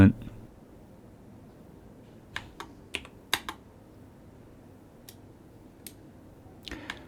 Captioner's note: keyboard clicking